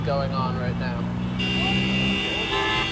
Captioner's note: cars honking